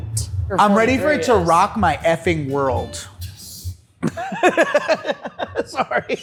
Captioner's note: laughs